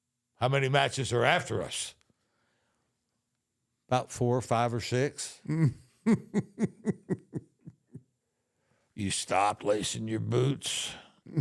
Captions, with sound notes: "How many matches are after us?" "About four or five or six." (Undertaker chuckling) You stopped lacing your boots.